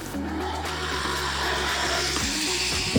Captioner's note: whirring